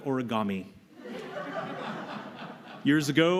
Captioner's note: laughter